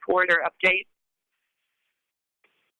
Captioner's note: silence